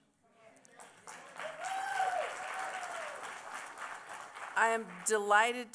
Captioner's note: applause